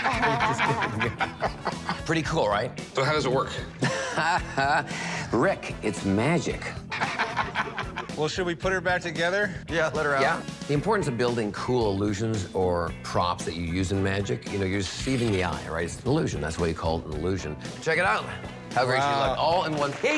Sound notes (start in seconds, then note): 4.0 laughs